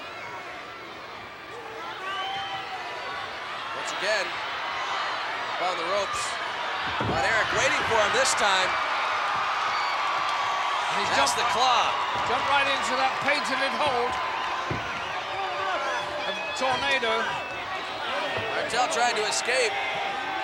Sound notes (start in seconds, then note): 8.8 crowd cheering